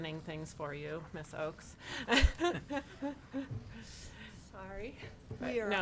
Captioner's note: laughs